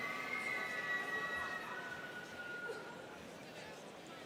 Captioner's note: students cheering